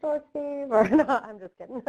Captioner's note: chuckling